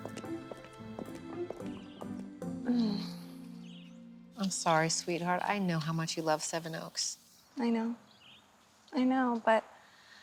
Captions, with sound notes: [Lisa sighs] I'm sorry, sweetheart. I know how much you love Seven Oaks. I know. I know, but...